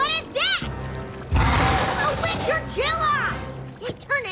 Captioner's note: growls